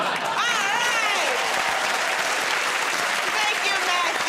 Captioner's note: cheers and applause